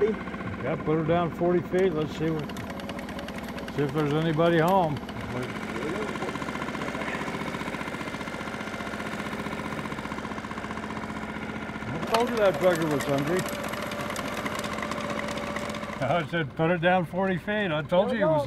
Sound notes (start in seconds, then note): 5.8 boat engine idling; 11.8 electric motor cranking